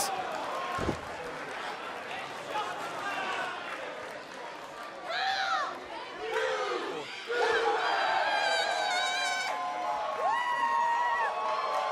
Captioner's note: crowd cheering